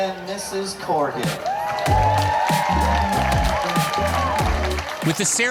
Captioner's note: cheering and applause